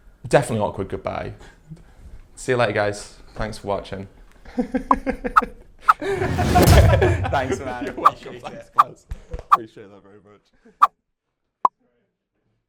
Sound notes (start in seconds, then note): 4.7 laughs